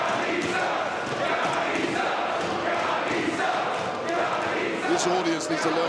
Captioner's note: crowd cheering